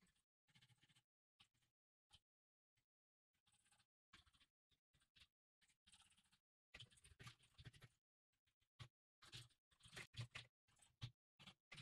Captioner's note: typing sounds